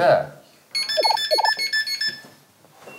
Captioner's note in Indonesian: Bip bip